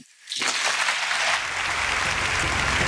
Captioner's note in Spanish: Aplausos